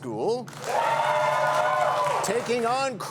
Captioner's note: cheers and applause